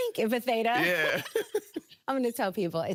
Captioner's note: both laughing